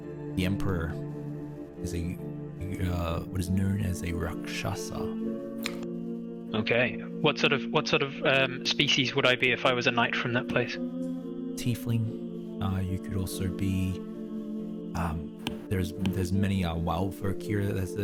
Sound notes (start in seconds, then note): none